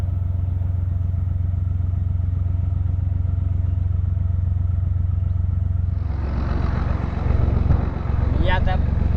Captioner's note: narrowboat engine sounds